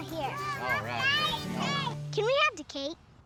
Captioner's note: shouts